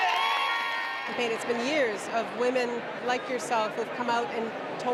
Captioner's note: cheering